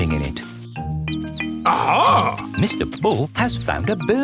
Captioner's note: chirping